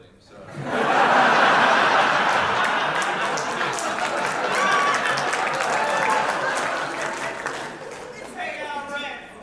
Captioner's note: audience laughter